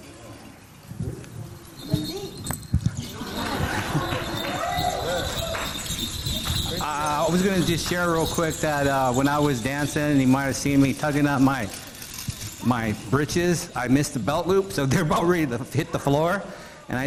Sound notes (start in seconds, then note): 0.1 participants chatting; 3.1 audience laughing; 5.7 beads clinking